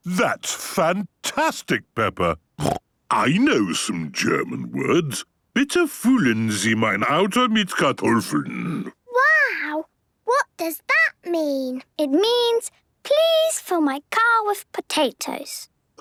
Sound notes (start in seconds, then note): 2.6 snorting; 5.7 speaking German